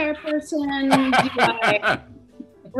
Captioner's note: laughing